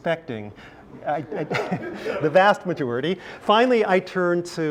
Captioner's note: laugh